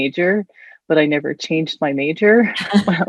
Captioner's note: both chuckling